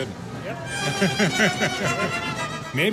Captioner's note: laughs